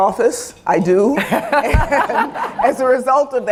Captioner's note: laughter